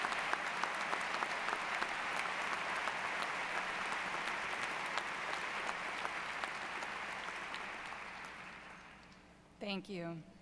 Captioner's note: applause